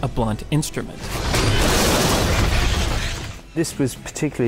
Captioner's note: truck crashing